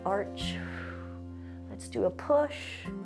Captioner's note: exhales